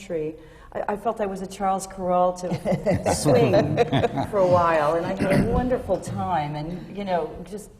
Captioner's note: laughter